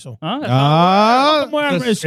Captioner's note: speaking In Foreign Language